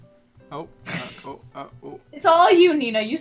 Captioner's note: snicker